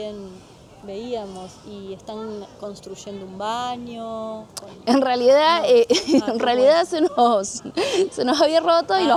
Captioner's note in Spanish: risas